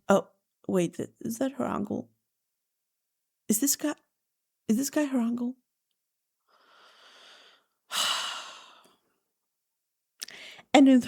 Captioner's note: sighs and gasps